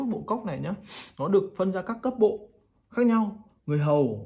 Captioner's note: sniffs